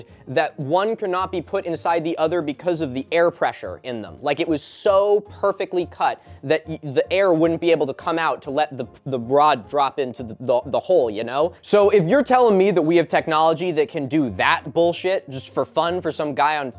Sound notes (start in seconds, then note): none